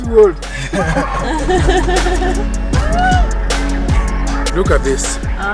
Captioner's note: everyone laughing amusingly